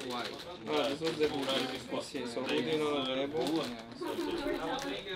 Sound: players speaking in Russian

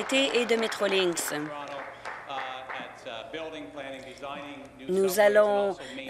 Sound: applause

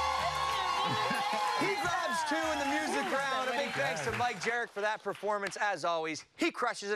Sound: cheers and applause

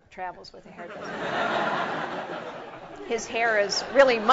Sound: laugh

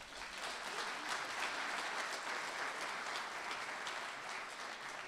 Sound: audience applauding

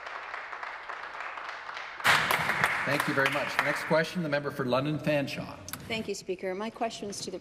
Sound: some Applause

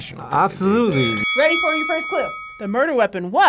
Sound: bell dings

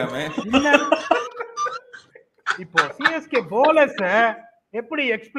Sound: laughs

